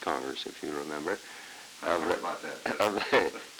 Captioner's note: chuckle